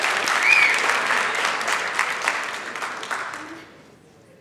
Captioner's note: whisle